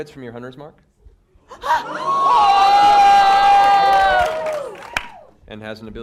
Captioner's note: cheering